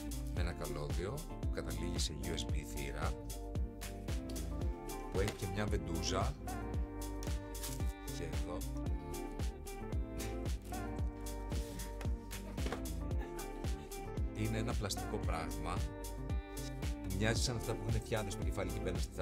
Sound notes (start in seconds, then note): 13.0 laughs